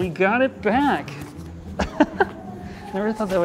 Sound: laughs

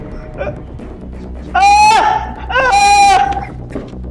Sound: shouting

